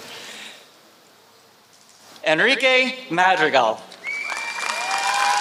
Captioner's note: applause